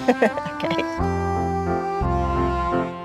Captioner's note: giggles